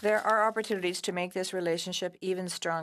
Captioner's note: speaking French